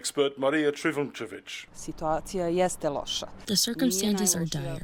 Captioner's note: through translator